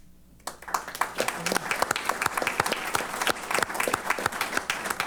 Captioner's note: applause